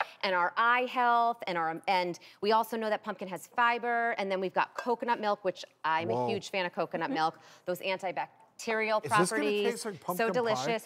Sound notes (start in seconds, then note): none